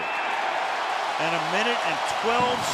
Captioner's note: cheering